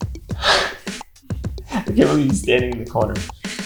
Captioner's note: speaker sighing